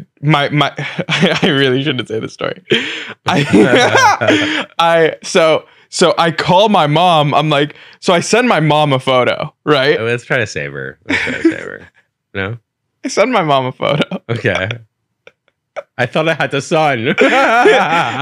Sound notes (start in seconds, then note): 0.4 laughs; 3.1 laughing; 11.0 laughing; 13.7 laughs; 16.7 laughs